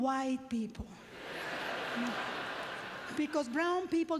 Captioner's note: audience laughter